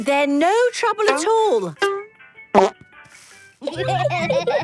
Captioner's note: laughter